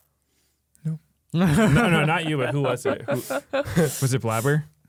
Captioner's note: laughs